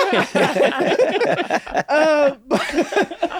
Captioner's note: all laughing